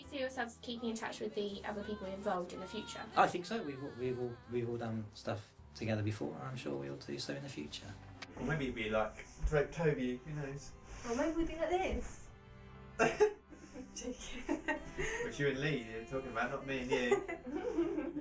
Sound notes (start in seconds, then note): 13.8 laughing